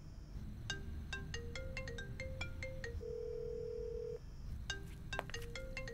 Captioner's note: Phone ringing